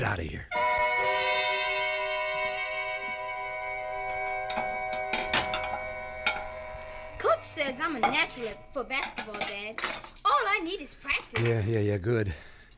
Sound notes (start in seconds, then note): 0.5 dramatic music playing; 5.5 silverware clinking